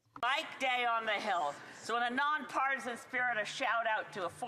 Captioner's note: speaking French